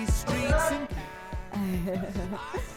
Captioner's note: laughs